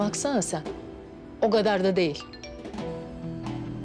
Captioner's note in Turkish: Bildirim Sesi